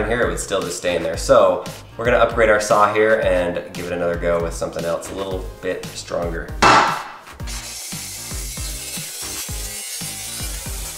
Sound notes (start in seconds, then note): 6.6 bang; 7.4 saw whining